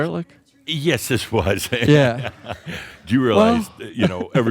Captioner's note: Adamus chuckles